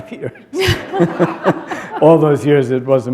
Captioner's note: laughter